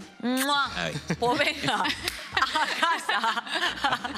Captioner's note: laugh